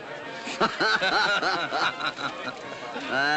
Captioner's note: laughter